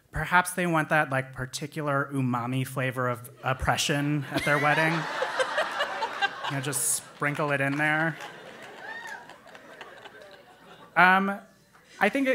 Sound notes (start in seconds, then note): 4.3 laugh